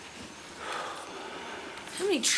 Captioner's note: sighs